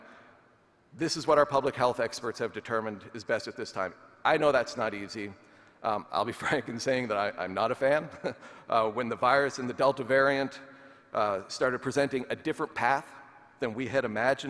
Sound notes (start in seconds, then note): 7.9 chuckling